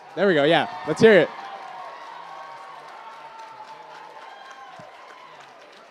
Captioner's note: cheers and applause